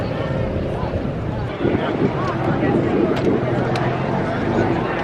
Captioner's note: crowds speaking distantly